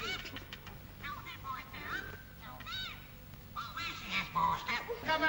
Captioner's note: strange sounding voice from street